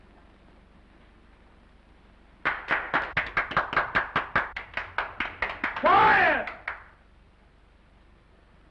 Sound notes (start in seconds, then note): 2.4 prisoners applauding